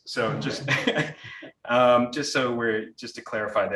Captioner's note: audience laughing